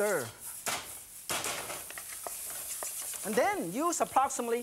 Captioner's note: wok clatters